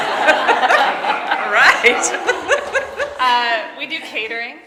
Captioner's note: laughing